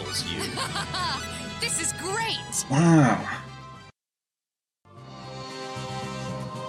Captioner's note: laughing